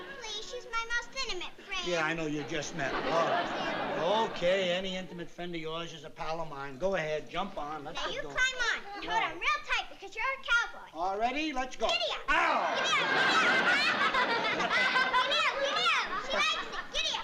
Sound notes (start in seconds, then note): 12.6 laughter